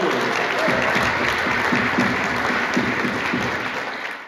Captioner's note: applause